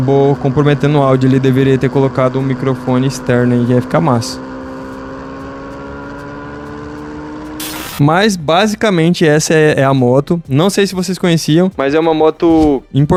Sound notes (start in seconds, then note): 4.5 motor snoring